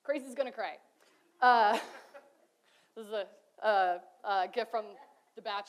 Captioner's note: laughs